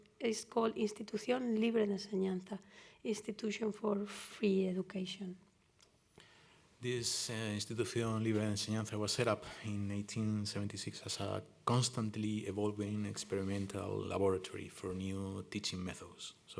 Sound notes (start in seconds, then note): 1.7 spanish